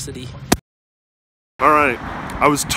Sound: loud tap

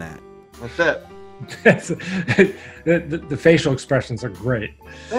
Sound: laughing

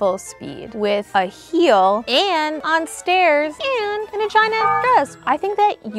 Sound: beeps

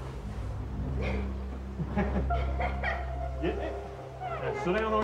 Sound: laughter

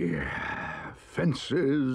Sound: Badger sighs

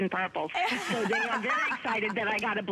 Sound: laughter

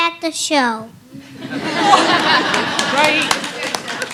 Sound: laughter, applause

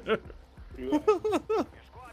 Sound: laughs

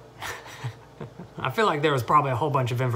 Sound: laughs

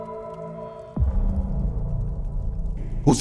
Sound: fire crackles

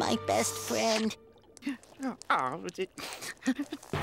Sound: sobbing

